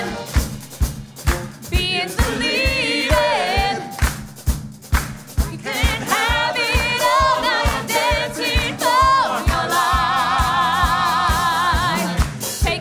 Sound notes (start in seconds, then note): 0.7 claps; 12.2 claps